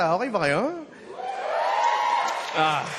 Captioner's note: audience cheers